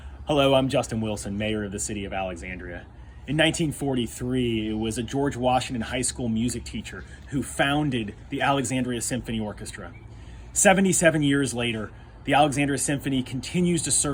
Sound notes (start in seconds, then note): none